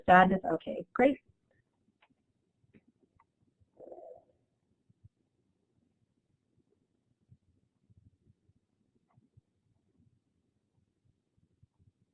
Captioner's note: silence